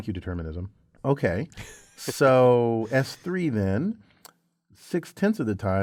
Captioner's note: laugh